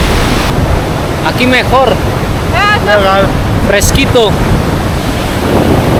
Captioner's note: Spanish